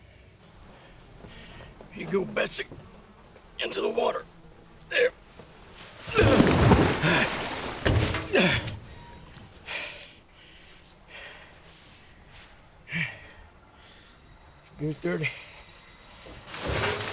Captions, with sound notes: Here you go, Betsy, into the water. There. (water splashing) (Nolan grunts) 8:30. Here.